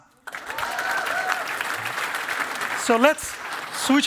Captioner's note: cheering and applause